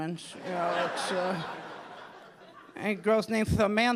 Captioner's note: audience laughing